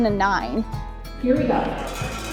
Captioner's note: bell rings